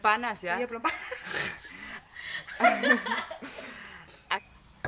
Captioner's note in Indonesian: Kami tertawa